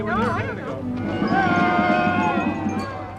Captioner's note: chatter; cheering